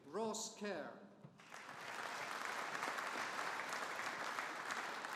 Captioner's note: audience applauding